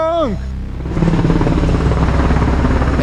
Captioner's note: sound of helicopter